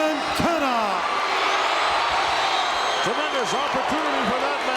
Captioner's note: audience cheering